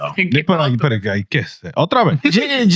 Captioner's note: speaking In Foreign Language